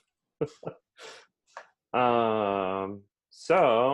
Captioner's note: laughs